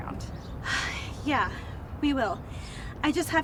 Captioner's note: sighs